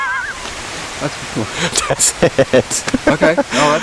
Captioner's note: laughing